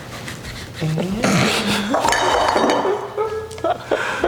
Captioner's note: both laughing